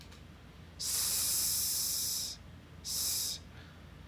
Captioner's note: hissing sounds